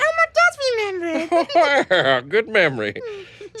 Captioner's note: laughs